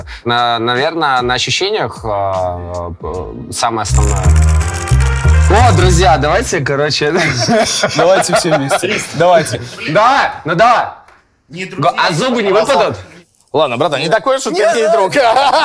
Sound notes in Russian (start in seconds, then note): 7.1 смех